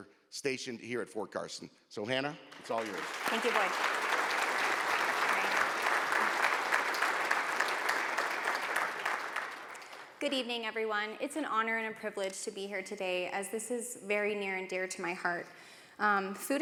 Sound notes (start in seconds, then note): 4.2 audience applauds